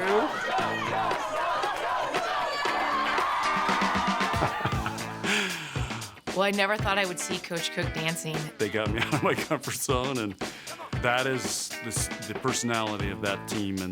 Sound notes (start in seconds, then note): 3.4 cheering; 5.3 laughs